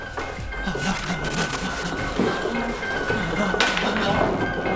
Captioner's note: electricity buzzing; tense dramatic music